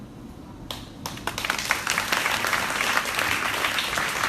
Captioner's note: crowd applauding